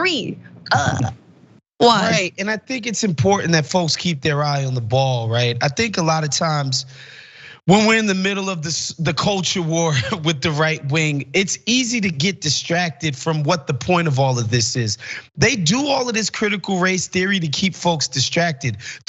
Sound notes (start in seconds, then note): 9.8 laugh